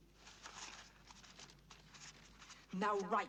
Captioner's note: rustling